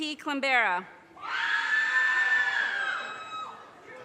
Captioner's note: audience cheers and applause